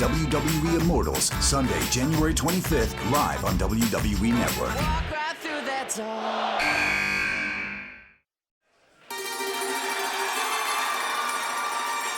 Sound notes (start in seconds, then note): 6.6 buzzer